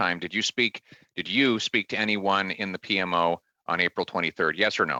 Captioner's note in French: voix de l'interprète